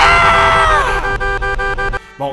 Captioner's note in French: klaxon